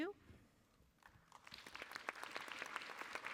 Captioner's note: applause